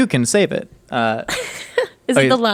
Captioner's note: laughing